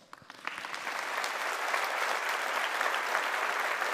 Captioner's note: audience applauding